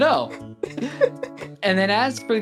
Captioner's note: laughing